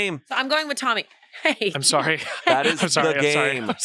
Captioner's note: laughs